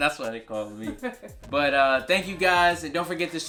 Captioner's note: laughs